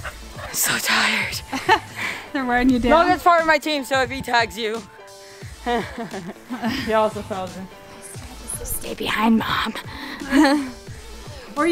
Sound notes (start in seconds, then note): 1.0 laughs; 9.6 laughs